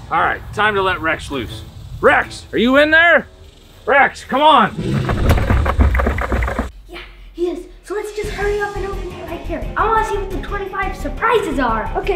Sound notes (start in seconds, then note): 4.7 door rattling